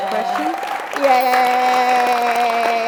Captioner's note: cheers and applause